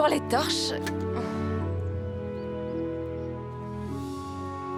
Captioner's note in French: gazouillis d'oiseaux